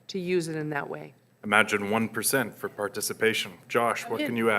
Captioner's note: voiceover